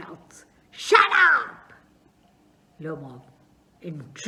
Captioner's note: shouts